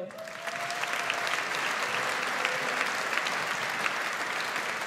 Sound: audience applauds

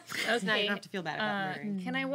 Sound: girls laughing

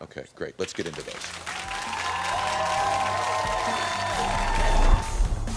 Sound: audience applauding

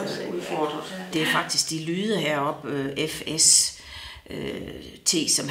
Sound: in Danish

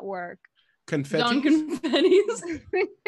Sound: laughing

